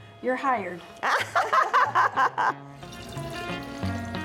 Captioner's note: laughing